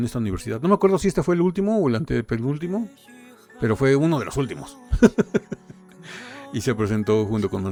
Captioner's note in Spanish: risas